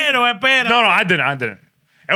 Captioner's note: non-english Speech